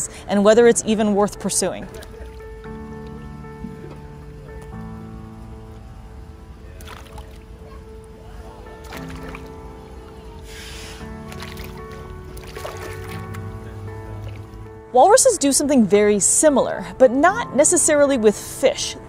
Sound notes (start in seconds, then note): 2.0 background chatter; 2.0 background music; 2.0 water splashing noises